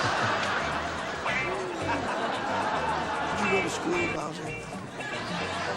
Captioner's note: laughter